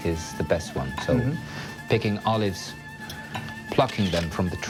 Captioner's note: camera flashing